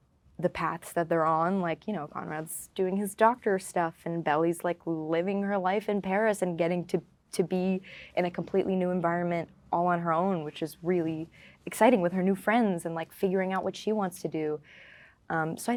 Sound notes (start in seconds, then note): none